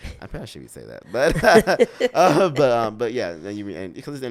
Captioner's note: both laughing